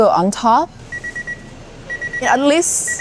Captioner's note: oven beeping